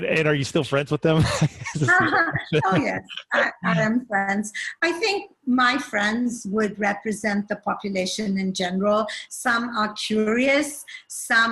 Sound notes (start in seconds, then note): 1.1 laughing